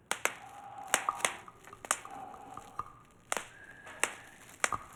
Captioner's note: bubble wrap popping